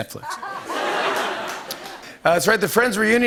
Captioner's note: laughter